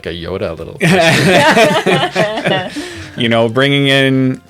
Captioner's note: laughter